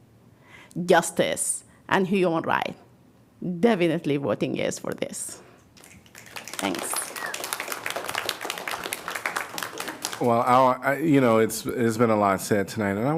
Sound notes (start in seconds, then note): 5.8 applause